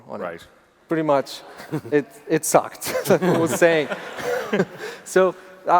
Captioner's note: laughs